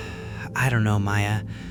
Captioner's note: sighs